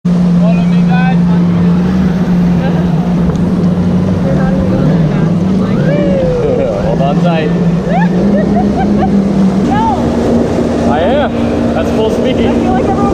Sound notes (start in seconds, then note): 7.8 chuckling; 7.8 giggling